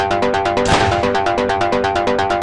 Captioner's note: gunshot